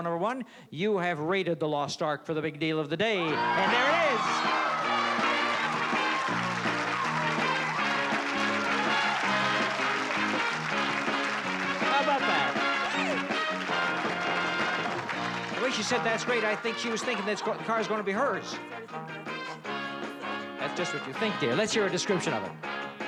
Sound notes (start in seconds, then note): 3.7 applause and cheering